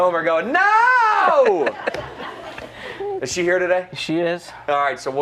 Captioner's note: laughter